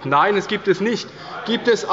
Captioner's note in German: Zurufe von der CDU